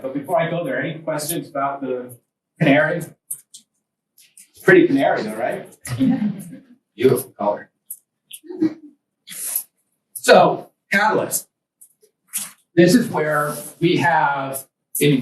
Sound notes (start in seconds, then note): 4.8 students laugh